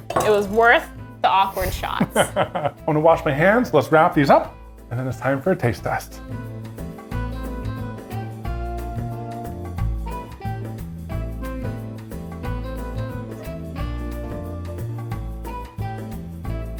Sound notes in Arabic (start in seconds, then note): 1.7 يضحك إيفان; 6.4 موسيقى مبهجة